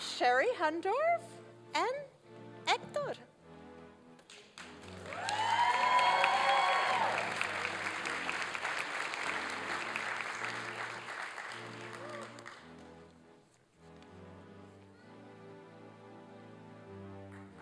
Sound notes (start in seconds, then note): 4.5 applause and cheering; 8.3 classical orchestral music; 17.3 applause and cheering